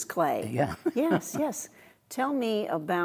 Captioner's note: laughing